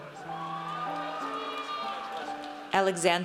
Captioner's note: audience cheers